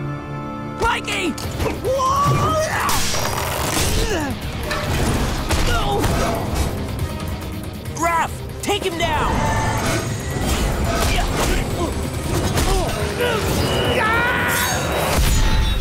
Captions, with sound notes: Mikey! [grunting] Oh! Raph, take him down. [grunting] [yelling]